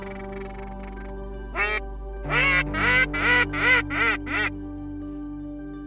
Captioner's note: duck calls